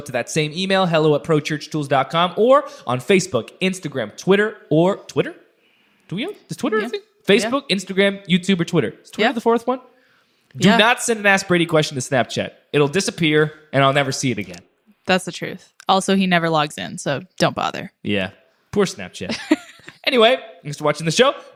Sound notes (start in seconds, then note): 19.3 chuckles